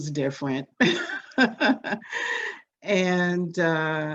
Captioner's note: laughs